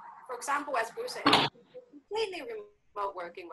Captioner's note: audio glitches